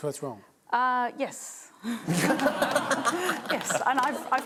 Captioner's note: laughter